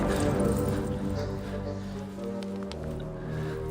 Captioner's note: Fleques panting